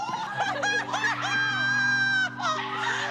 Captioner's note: laughs